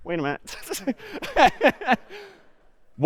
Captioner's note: می خندد